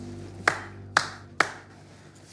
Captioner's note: Claps